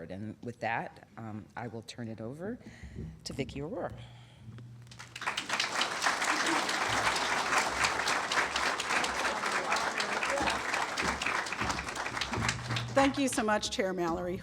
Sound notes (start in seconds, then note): 4.9 applause